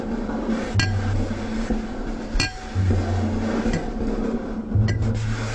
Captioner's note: glass tapping, cloth rubbing